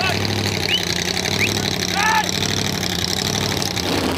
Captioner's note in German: Motor, Pfeifen, Anweisungen